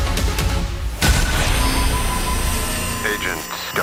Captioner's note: electronic distortion; sinister male voice